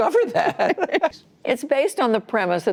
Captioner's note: laughter